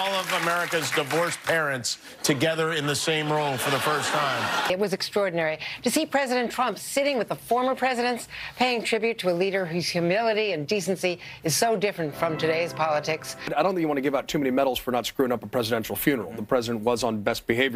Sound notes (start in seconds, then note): 3.0 applauding